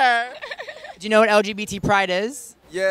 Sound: giggling

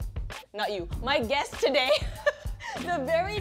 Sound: laughs

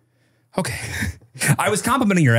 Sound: chuckles

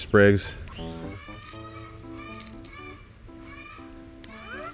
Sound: chicken clucking

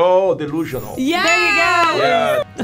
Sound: cheers

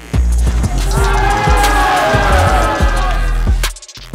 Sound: crowd jeering

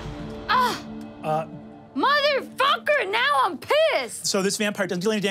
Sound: groans

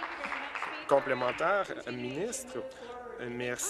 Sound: applause

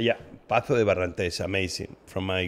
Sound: speaking in a foreign language

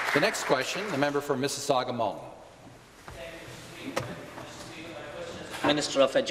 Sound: applause

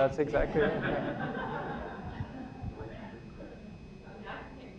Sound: laughter

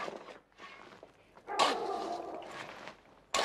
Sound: barking

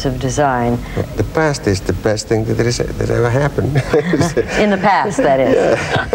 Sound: laughs

